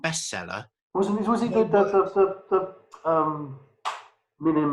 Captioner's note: murmurs